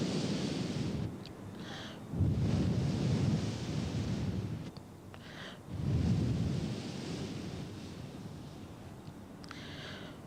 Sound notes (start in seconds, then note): 0.0 mother blowing into the micro